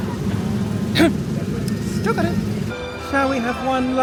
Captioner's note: clears throat